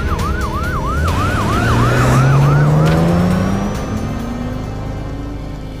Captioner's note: car engine